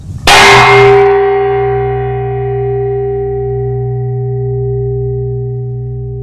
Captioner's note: loud clanging sound